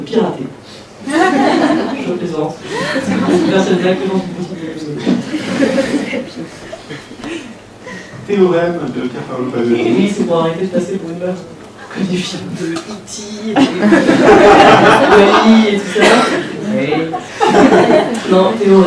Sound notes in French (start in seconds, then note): 1.0 rires; 5.0 rires; 13.6 rires